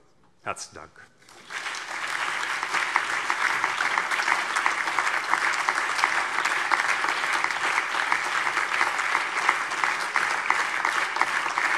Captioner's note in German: Anhaltender Beifall